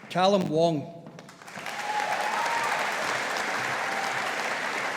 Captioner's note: audience applauding